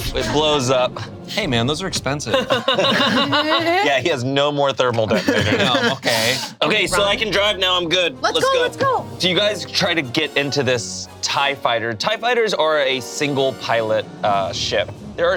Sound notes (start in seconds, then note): 2.1 group laughs